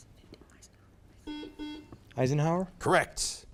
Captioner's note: buzzer beeps